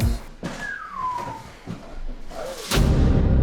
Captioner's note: whistle